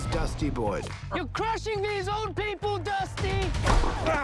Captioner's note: player grunts